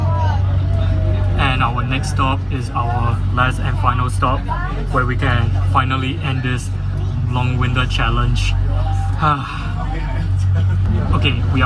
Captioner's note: sigh